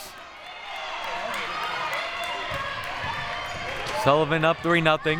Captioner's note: audience chattering and yelling